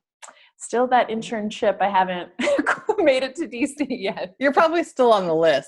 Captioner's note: laugh